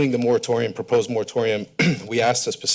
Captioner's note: coughs